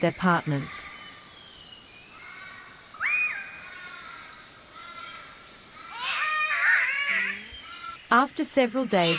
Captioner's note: Catbird calls